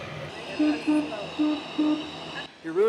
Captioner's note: train; boop boop, boop boop